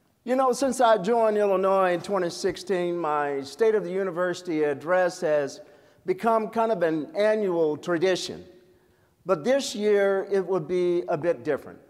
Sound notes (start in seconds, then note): none